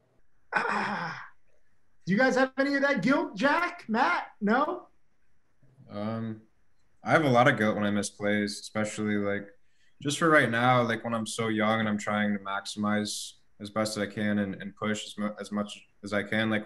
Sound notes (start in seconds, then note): 0.5 groans